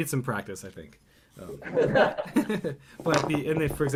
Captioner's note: laughter